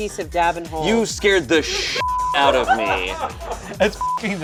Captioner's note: beep; crew laughing